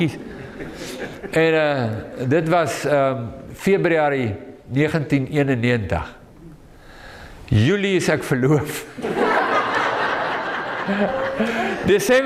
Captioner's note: audience laughing